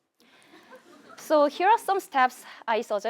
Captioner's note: laugh